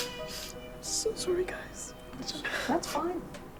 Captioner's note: through tears